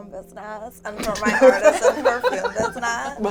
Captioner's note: all laugh